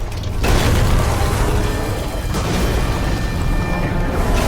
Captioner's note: rock crunching